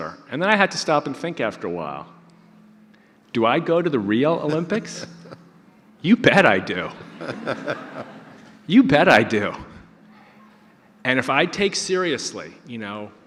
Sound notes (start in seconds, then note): 6.9 audience laughter